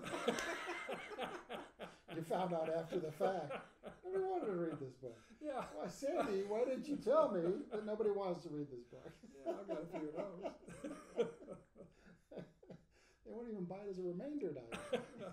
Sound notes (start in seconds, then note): 0.3 laughing; 4.1 speaking faintly; 8.8 laughing; 9.7 speaking faintly